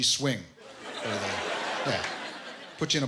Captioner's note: laughter